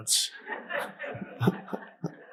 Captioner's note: audience laughs; Eckhart laughs